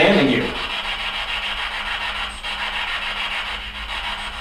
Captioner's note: static buzzing